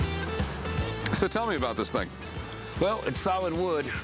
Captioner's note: none